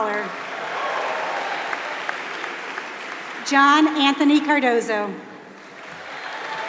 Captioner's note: applause